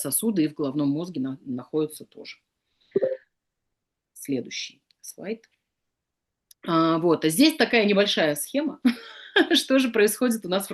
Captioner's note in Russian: смех